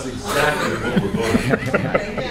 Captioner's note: laughter